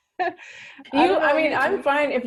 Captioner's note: laughing